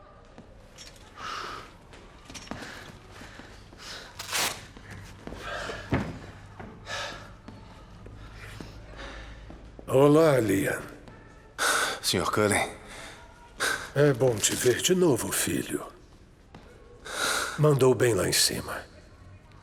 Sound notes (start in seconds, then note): 1.7 panting